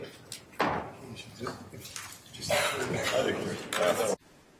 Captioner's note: chattering